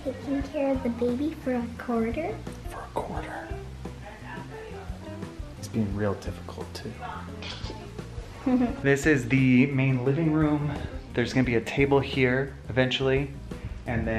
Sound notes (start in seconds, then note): 4.2 whispers; 8.4 laughs